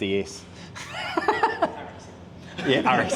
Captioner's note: laughs; mechanics laugh